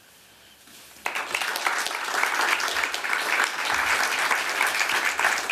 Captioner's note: applause